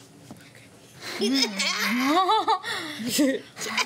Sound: laughter

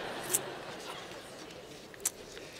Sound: laughter

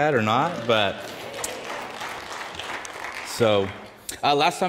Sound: audience applauds

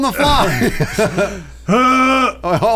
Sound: laughing

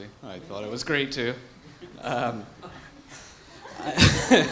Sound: laughter

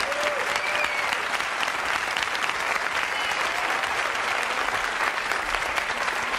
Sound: audience cheering and applauding

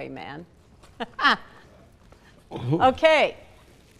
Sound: laughing

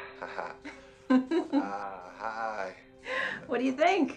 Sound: chuckles

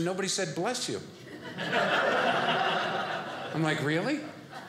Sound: audience laughing

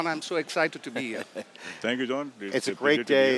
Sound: laughter

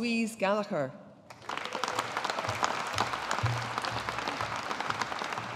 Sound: audience applauding

